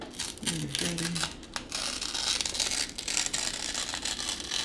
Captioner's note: paper tearing